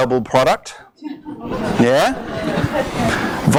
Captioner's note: audience responds